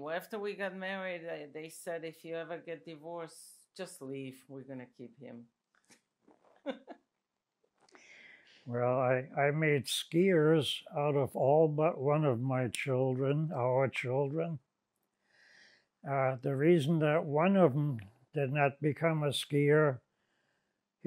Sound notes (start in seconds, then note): 5.7 laughing